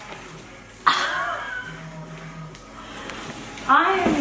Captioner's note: laughing